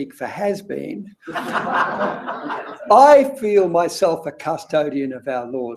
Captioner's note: laugh